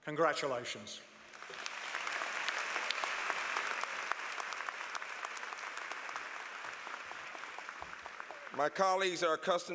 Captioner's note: applause